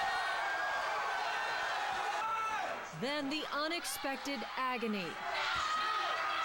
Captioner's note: applause